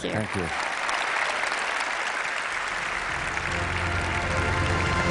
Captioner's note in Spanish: Aplausos